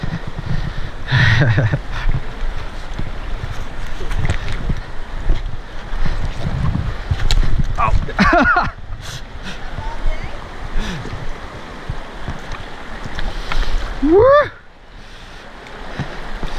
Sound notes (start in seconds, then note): 1.2 laughs; 6.2 branch cracks; 8.1 laughs